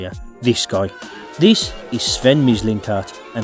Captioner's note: booing